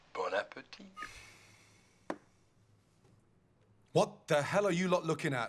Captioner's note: guy speaking in foreign language